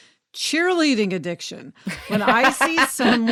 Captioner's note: laughs